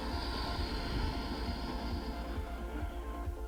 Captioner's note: exhaling